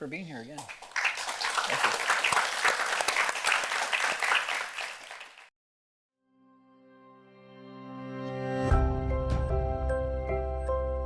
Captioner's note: applause